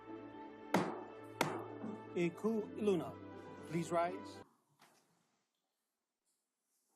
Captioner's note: gavel bangs twice